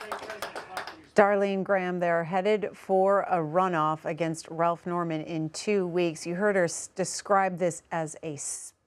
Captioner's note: applause